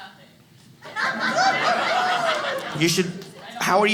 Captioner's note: audience laughing